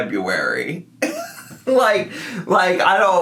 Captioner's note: laughs